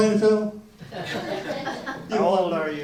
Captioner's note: audience laughs